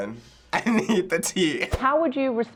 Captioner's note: chuckles